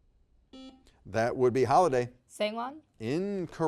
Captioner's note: buzzer beeps